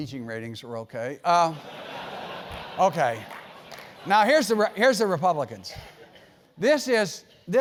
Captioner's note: laugh